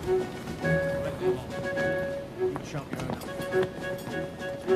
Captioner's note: low chatter